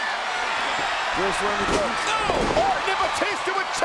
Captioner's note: audience cheers